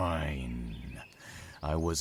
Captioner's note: annoyed growl